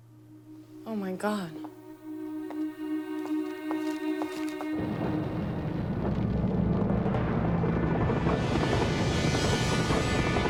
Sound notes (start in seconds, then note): 2.4 footstep